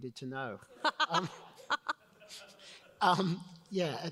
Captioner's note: all laugh